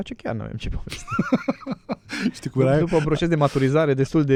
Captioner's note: laughter